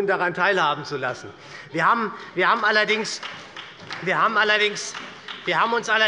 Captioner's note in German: Beifall bei der SPD